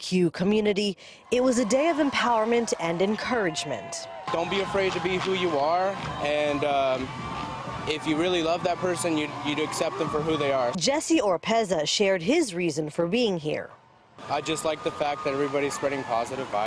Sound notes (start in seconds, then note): 2.8 cheering